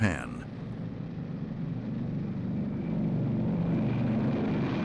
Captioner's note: B-29 taking off